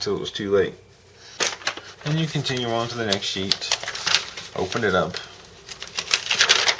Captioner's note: rustling paper